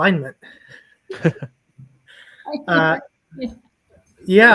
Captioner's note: both laugh